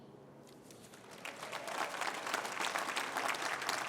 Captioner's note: applause